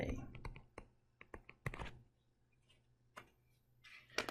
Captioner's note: tapping Sounds